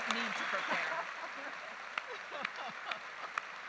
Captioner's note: laughing; audience applauding